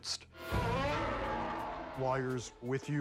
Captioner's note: growling